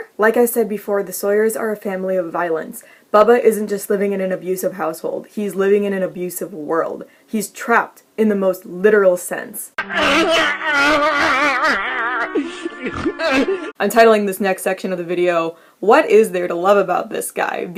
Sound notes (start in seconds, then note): 9.8 Squidward crying sounds